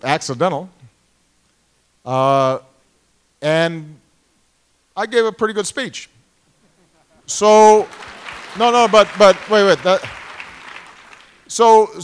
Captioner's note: applause